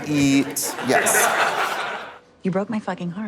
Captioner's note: audience laughs